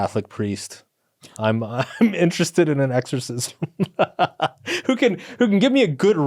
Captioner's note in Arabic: يضحك